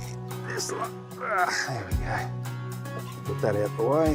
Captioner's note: grunts with effort